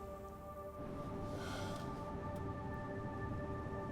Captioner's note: sighs